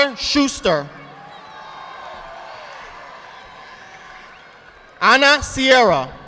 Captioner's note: audience applauding